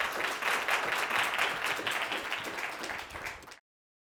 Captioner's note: audience applauding